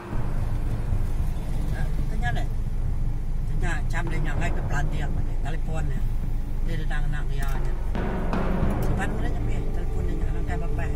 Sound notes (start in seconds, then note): 8.6 light rain